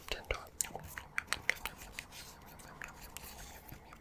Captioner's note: chewing noises